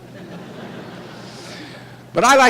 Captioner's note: chuckling